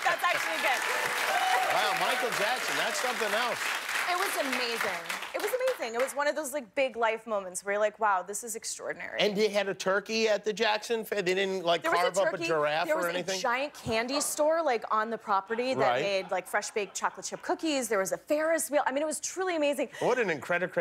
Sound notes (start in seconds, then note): 5.1 cheers and applause